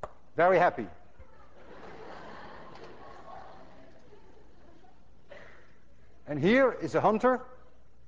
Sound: class laughs

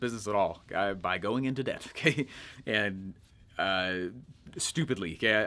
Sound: chuckles

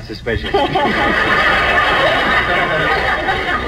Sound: audience laughs

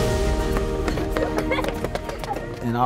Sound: children laughing

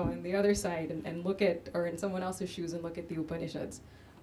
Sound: none

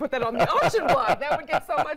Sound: laughter

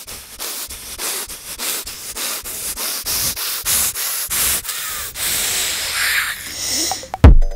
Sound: frustrated breathing

